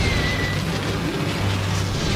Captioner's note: whooshing